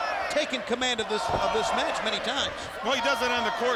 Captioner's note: audience chanting